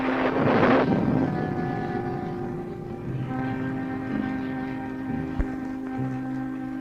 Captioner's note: thunder rumbling; wind howling